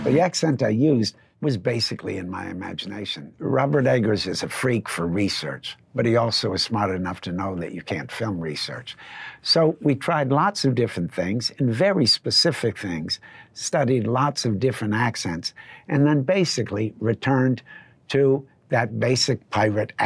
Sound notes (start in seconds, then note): none